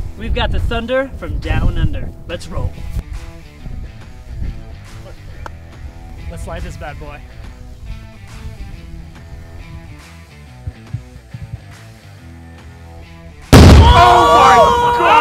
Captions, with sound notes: We've got the thunder from Down Under. Let's roll. Let's light this bad boy. (explosion)